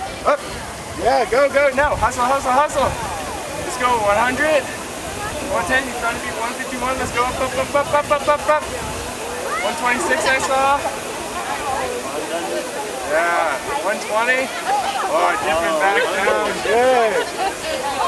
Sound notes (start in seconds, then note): 11.1 crowd chattering; 14.8 trainers cheering